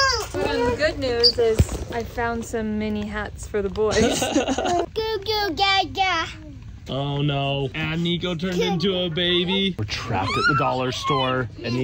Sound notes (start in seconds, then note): 4.0 laughs; 5.2 imitates baby noises